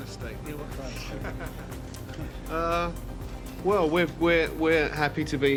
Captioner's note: audience laughs